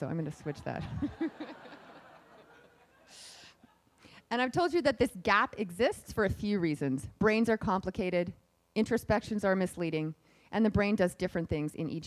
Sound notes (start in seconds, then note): 0.8 laughing